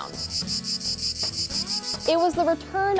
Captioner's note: insects shrieking